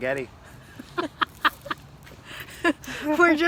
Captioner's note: laughing